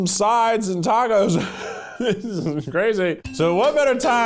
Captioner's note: giggling